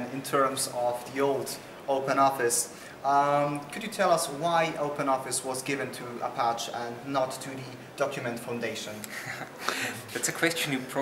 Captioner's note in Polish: śmiech